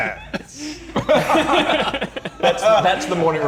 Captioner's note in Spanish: Risas